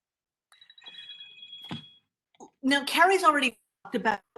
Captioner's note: phone ringing